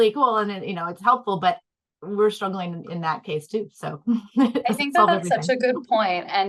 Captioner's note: laughs